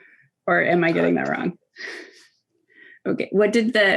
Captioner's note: laughing